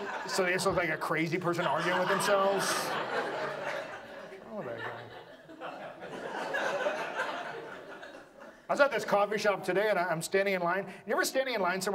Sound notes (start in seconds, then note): 3.5 audience laughs